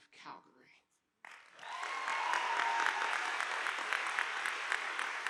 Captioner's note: audience applauding